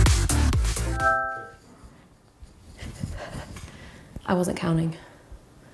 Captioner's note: device chimes